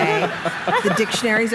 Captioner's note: laughter